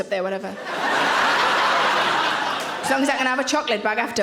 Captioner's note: audience laughing